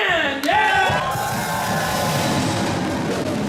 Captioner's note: crowd cheering; drums playing